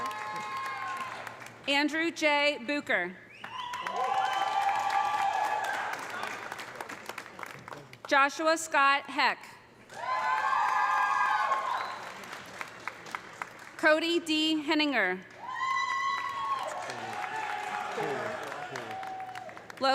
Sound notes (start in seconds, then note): 3.4 audience applauding; 3.5 audience cheering; 9.9 audience cheering; 9.9 audience applauding; 15.3 audience applauding; 15.4 audience cheering